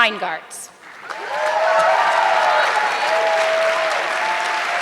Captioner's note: audience clapping